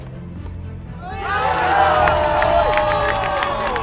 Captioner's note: crowd cheers